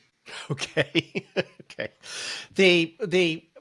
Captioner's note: laughs